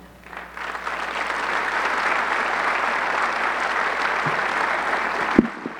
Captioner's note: audience clapping